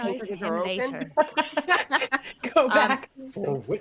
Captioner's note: all laughing